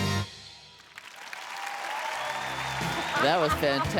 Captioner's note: applause